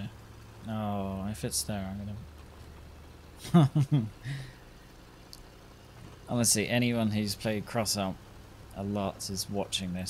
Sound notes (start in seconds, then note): 3.4 laughs